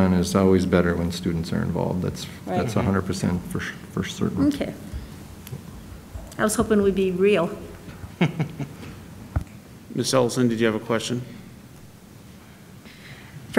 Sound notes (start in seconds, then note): 8.0 laughs